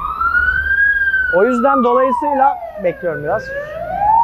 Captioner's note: siren ringing